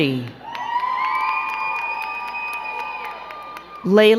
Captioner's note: crowd cheering and clapping